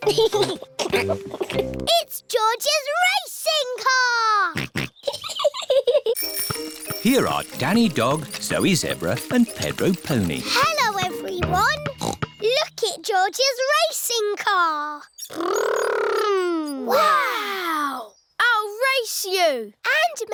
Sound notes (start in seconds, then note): 0.0 chuckles; 4.6 snorts; 5.0 chuckles